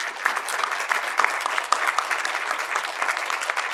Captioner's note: crowd claps